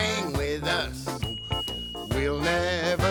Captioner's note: bell rings